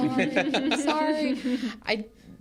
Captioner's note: hosts laugh